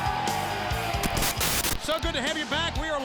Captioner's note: audience cheering; upbeat music; static crackling